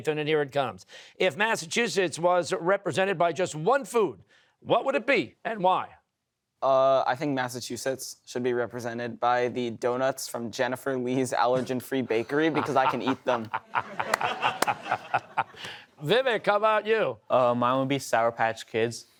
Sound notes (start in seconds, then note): 14.4 laughter